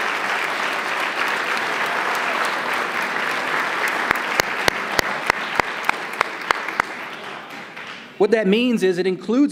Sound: applause

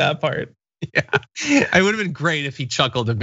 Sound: laugh

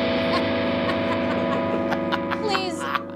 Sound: laughing

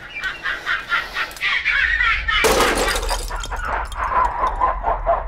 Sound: woman laughs hysterically

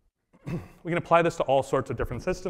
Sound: coughs

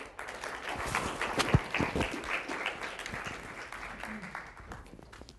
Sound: applause

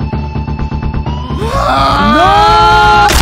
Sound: screaming

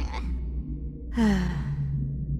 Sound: sigh

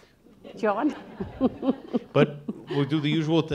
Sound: audience laughing

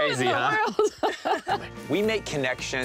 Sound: laughing

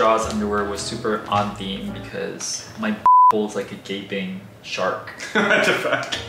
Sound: beep; laughs

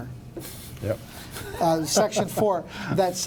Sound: laughs

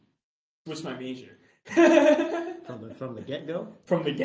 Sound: laughs

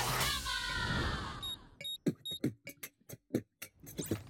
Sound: beat boxing

